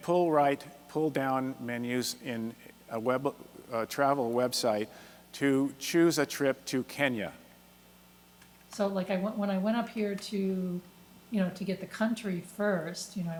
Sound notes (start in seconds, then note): 9.0 voiceover